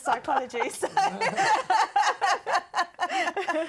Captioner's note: laughter